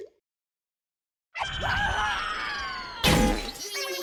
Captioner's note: inevitably falling, cue meggy & guy screaming all the way down